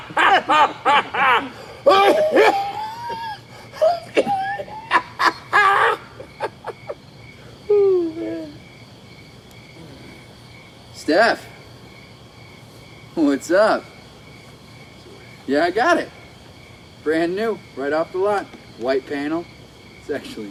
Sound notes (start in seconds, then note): 0.0 men laughing; 3.8 Jake coughing